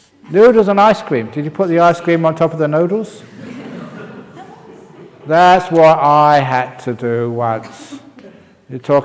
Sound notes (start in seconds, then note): 3.2 laughter